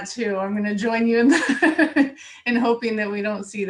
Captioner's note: laughs